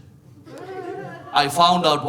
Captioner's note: audience laughing